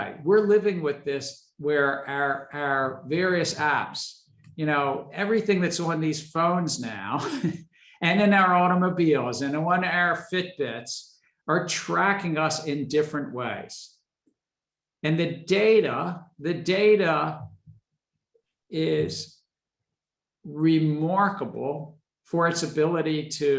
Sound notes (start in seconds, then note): 7.6 laughs